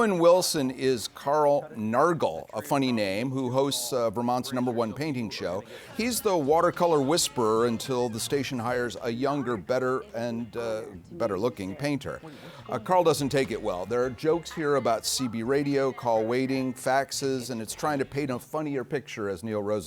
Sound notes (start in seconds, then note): none